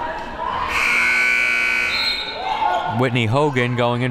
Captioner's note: buzzer blares